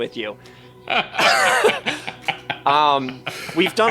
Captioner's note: all laugh